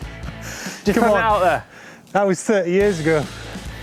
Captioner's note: laughing